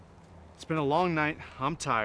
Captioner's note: none